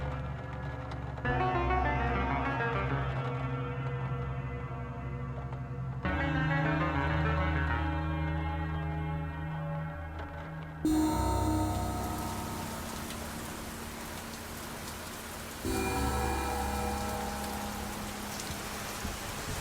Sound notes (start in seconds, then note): 5.1 dramatic music continues; 12.5 rain splashes